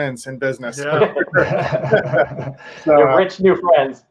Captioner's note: all laughing